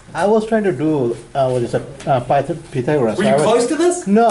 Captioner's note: voiceover